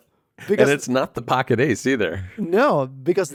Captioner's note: laughs